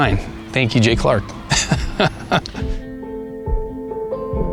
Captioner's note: laughs